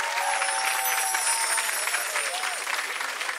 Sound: chiming

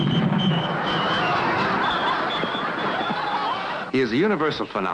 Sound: audience laughing

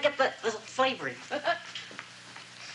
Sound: chuckles

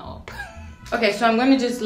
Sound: laughing

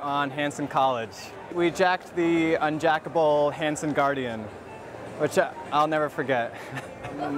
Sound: chuckles

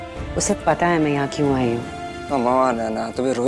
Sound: none

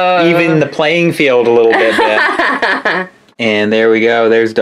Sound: laughs

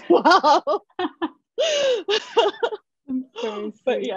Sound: laughter

